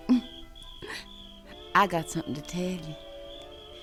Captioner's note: giggles